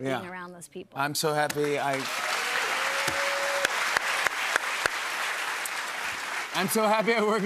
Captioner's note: cheers and applause